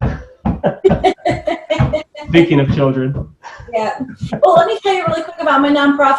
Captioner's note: loud knocking; laughing